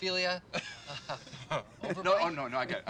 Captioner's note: laughs